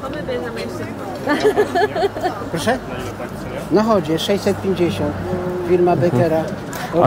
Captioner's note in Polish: śmiech